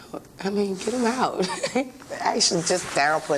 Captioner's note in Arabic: يضحك